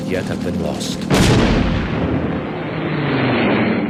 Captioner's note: V-1 explodes; jet engine roaring